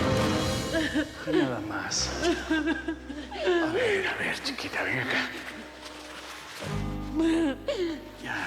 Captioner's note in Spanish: sollozos; sollozos